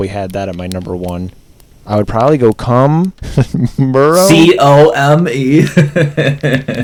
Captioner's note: laughs